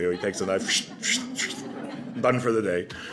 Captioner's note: slashing noise